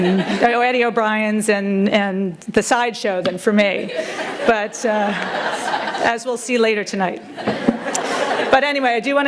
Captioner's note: chuckles